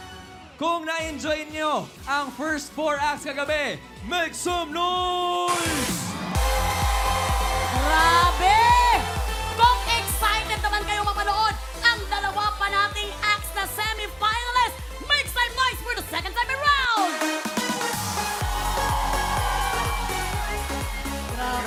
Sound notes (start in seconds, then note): 5.5 cheering; 6.5 upbeat music playing; 17.5 upbeat music playing; 17.8 cheering